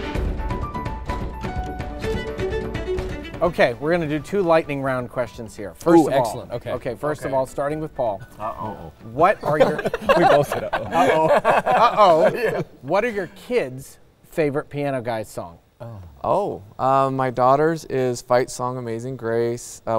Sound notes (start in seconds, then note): 9.3 all laughing